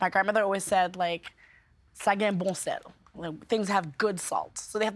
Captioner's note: speaking French